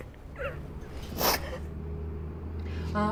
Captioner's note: sobs; sniffs